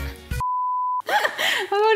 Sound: beeping

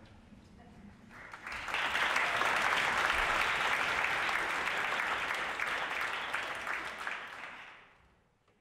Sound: applause

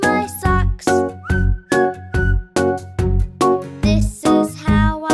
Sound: whistling

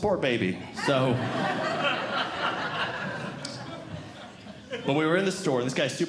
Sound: audience Laughing

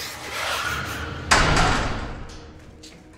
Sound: gate closes

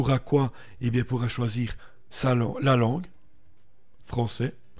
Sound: french here

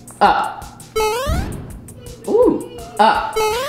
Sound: electronic beeping

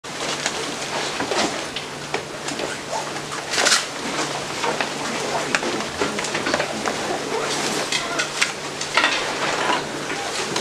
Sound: indistinct conversation

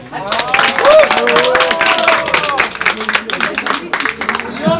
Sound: cheers

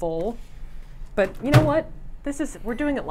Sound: microwave bangs

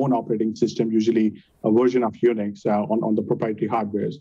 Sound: murmurs

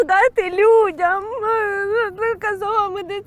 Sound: cries and speaks indistinctly

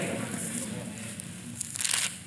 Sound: audience repeats

